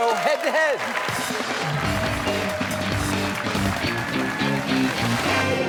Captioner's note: cheers and applause